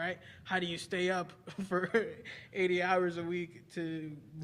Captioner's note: laughing